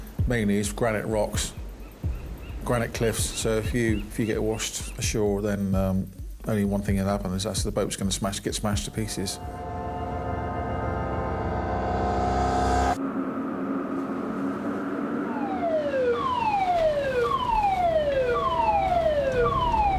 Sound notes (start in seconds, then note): 10.6 dramatic music; 16.0 alarm blaring